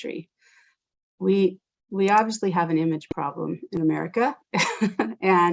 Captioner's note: laughs